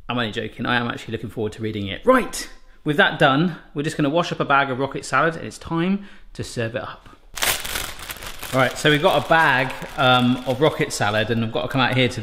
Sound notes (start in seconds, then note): 7.3 bag crackles